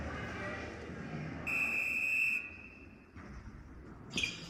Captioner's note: whistle blows; squeaking